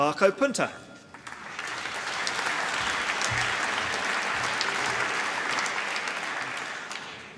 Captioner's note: applause